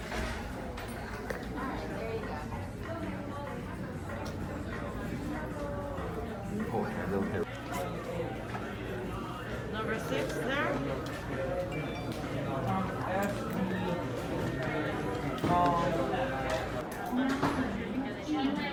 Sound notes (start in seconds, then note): 0.1 gente hablando débilmente; 11.9 suena un pitido de notificación del teléfono; 13.4 gente hablando débilmente